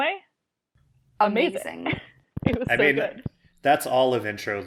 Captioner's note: laughs